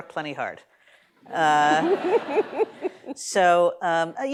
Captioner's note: laughter